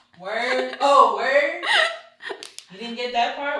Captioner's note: both laugh